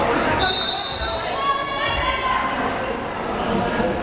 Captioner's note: whistle blares